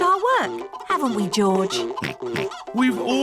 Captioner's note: oinks